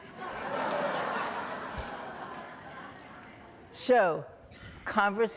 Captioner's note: audience laughing